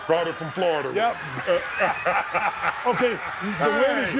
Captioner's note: both laughing